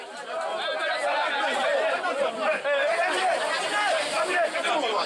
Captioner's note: Senegalese spoken audio